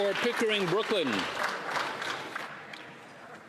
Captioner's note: applause